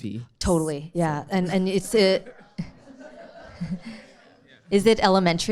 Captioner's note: audience chuckling